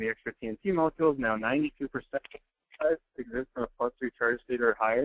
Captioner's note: microphone cuts out